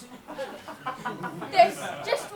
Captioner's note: audience laughs